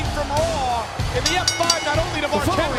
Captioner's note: bell rings